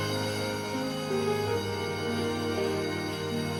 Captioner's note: bell ringing